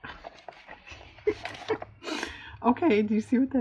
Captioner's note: laughs